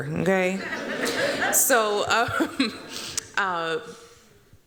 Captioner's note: laughter